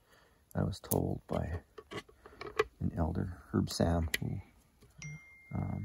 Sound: phone dings

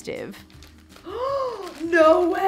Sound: dramatic gasp

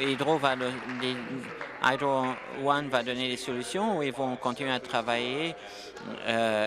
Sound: applause

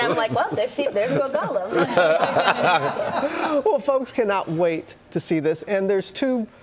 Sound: laughter

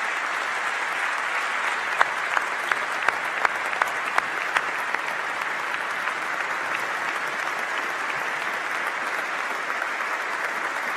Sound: applause

